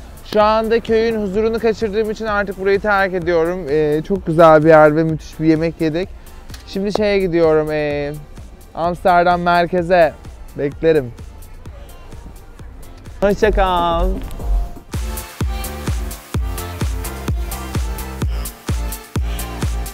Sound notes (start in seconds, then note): none